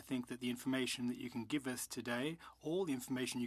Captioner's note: speaking French